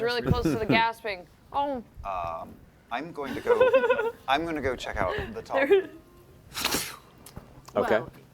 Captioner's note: mist sound